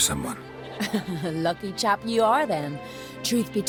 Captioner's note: chuckle